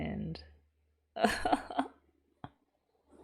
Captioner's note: laughs